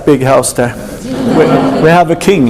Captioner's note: laughing